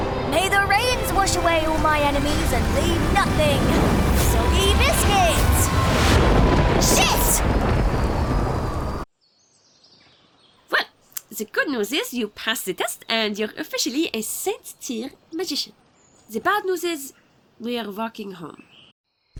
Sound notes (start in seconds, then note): 5.9 thunder noise; 9.2 bird noises